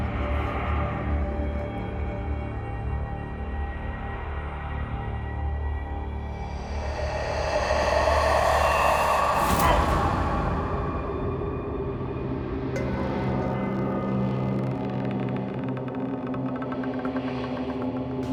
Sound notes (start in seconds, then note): 9.6 Kris grunts; 11.0 eerie music